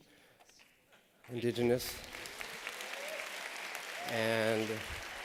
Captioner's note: applause